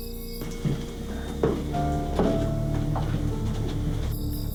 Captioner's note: footsteps clicking; sinister music